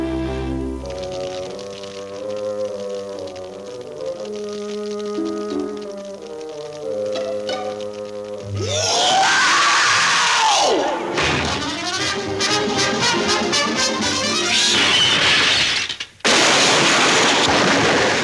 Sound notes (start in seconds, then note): 0.9 fire crackling; 11.1 slam!; 14.3 crash!!!